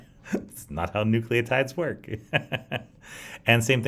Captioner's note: laughs; laughs